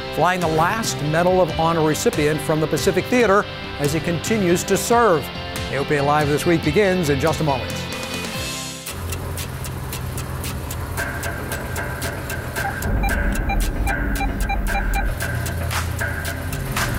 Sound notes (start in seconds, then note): 7.9 bright music; 8.8 rhythmic music; 12.6 electronic beeping